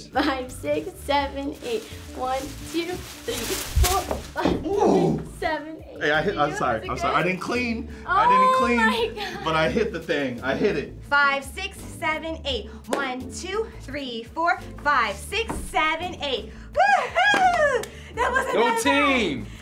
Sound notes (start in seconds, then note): 12.9 both clap